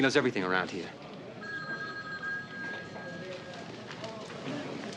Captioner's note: phone rings